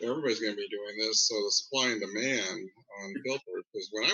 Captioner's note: speaks faintly